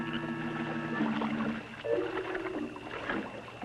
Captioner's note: water splashing